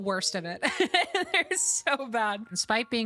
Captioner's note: laughter